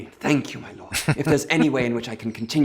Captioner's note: chuckling